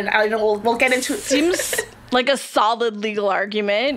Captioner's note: laughs